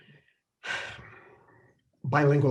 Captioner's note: sighing